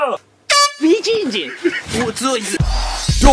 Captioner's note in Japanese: 奇声